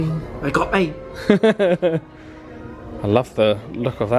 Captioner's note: laughs